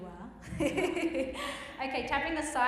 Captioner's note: giggles